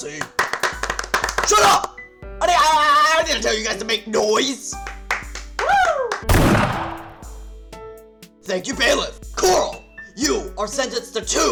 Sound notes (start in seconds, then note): 0.1 applause; 6.2 gunshot